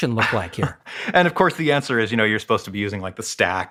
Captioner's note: laugh